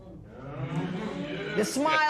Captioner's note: spectators murmur